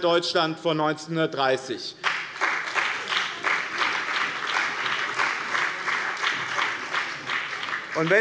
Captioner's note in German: Beifall bei dem BÜNDNIS 90/DIE GRÜNEN sowie bei Abgeordneten der CDU und der SPD